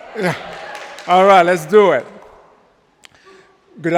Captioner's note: audience applauding